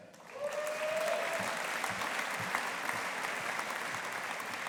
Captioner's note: audience applauding